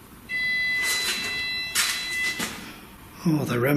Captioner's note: machine beeps